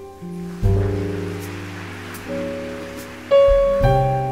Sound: audience clapping

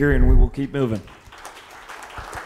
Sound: audience applauding

